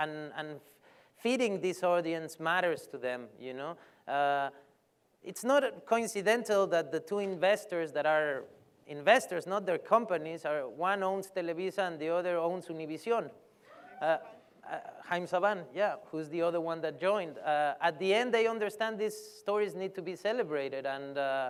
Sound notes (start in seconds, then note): 13.7 cheer